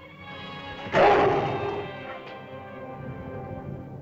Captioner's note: dramatic music; lizard snarls